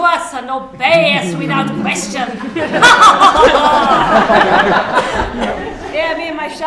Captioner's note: evil laugh